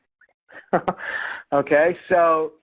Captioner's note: laughs